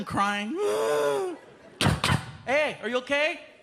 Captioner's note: imitates sobbing